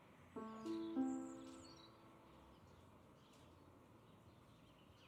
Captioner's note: birds chirping